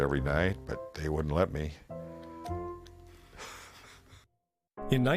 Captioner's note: laughing